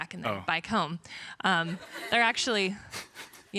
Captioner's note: crowd laughs